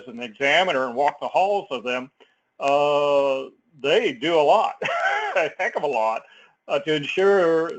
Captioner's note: laugh